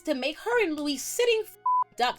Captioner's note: beep